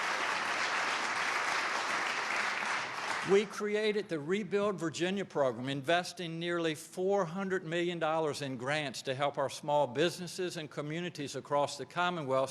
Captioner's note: applause